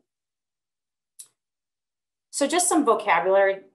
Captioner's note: clicking